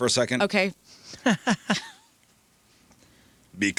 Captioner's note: laughter